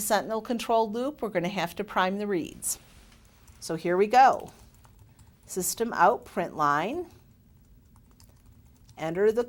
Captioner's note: typing